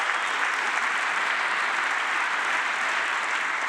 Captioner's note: applause